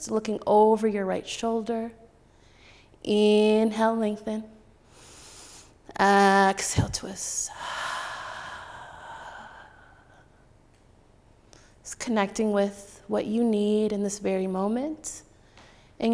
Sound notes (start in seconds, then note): 4.5 inhaling; 7.5 exhaling